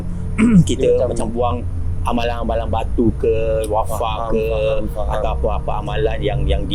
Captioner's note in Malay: berdeham